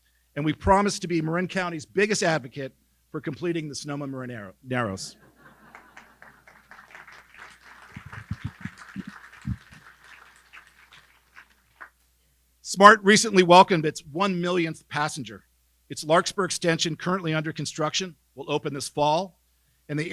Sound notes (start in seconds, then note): 5.2 laughing; 5.3 audience clapping